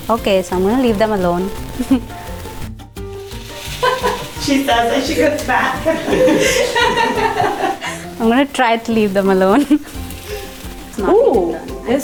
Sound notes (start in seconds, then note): 7.4 laughs